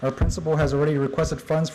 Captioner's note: none